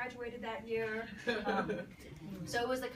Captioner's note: people laugh